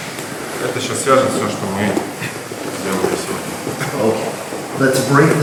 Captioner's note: speaking in a foreign language